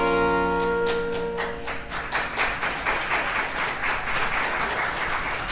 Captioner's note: song ends, crowd applauds